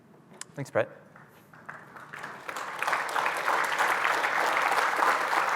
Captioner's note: applause